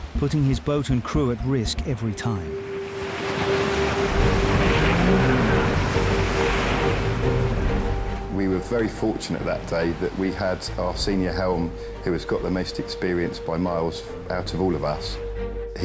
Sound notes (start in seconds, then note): 3.4 waves crashing